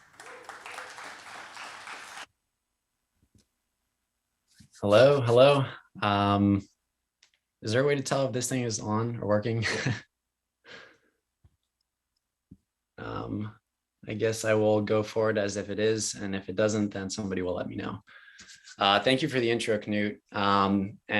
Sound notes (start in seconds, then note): 0.0 audience claps; 9.6 laughs